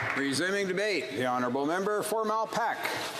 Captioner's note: some applause